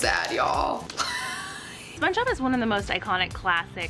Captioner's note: laughs